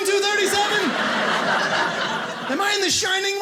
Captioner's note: audience laughing